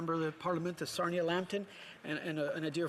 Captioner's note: speaking French